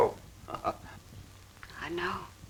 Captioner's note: chuckling